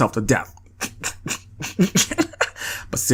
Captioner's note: snickers